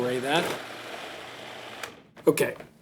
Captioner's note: food processor stops